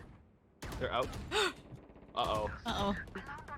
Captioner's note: gasp